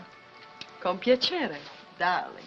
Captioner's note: speaking in italian